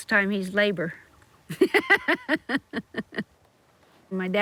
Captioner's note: laughs